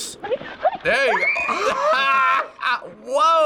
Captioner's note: laughs; screams; gasps